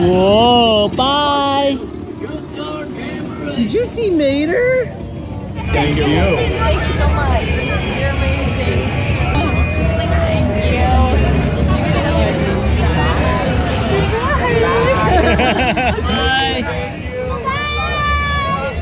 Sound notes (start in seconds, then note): 15.0 laughing